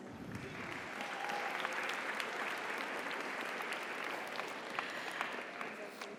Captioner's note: audience applauds; audience cheers